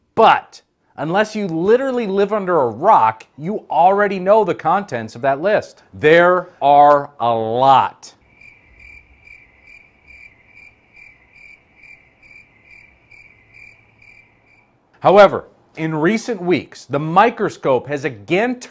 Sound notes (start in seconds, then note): 8.2 crickets chirping